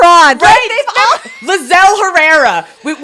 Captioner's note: both laughing